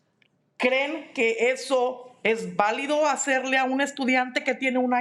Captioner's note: speaking in Spanish